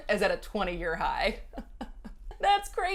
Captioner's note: laughs